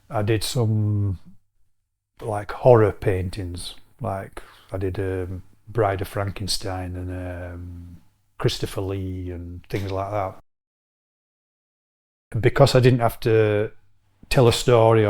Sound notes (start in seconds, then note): none